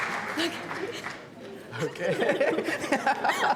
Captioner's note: also laughing; laughing